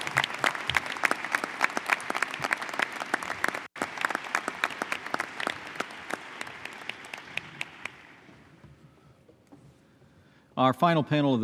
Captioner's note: applause